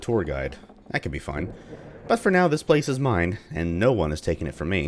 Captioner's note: thunder